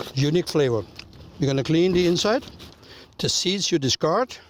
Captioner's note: rustling